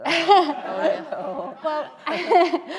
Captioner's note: laughter